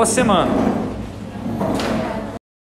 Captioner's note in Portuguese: barulho de porta abrindo